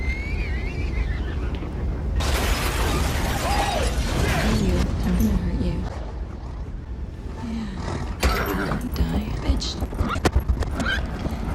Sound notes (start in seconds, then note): 5.9 horse snorts